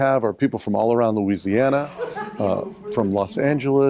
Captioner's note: audience chuckling